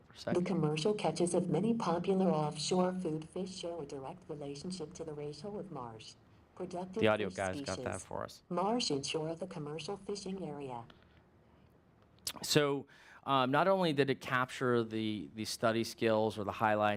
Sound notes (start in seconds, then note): 1.0 computer voice